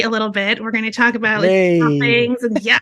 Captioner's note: laughing